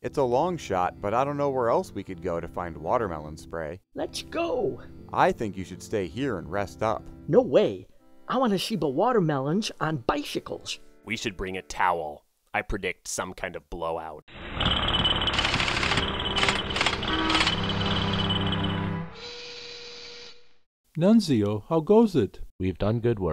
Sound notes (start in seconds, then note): 14.4 construction noise